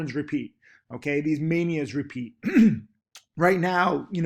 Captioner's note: clears throat